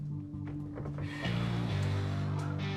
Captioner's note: exhales